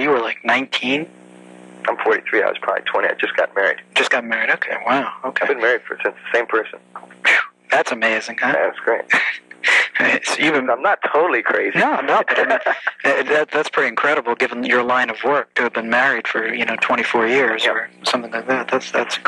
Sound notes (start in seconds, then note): 9.0 laughs; 11.7 laughs